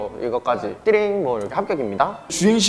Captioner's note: T-ring bell sound